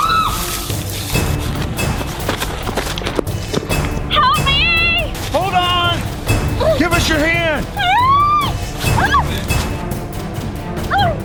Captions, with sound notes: Help me! - Hold on! Give us your hand! (screaming)